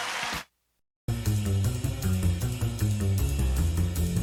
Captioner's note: applause